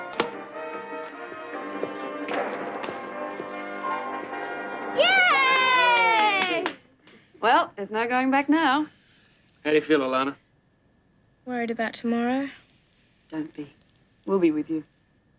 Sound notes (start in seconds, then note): 0.1 upbeat music on TV; 5.0 all applauding